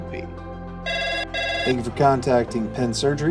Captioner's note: phone rings